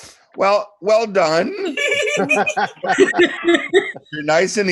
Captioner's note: group laughs